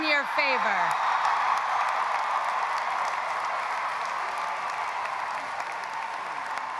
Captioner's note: audience applauding; audience cheering